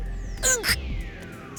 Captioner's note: frustrated grunt